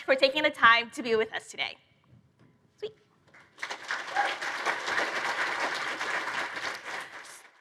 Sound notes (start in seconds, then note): 3.3 applause